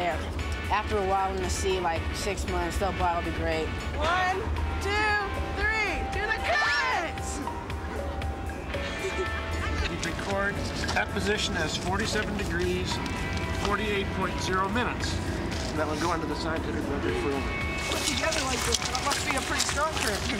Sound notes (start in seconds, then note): 8.8 laughter